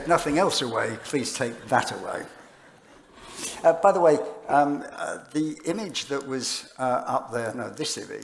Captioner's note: laughter